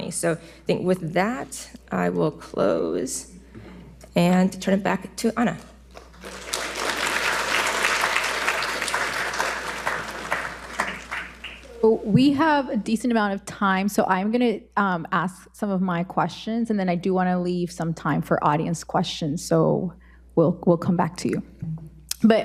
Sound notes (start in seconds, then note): 6.0 audience applauding